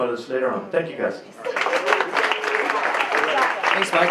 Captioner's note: cheers and applause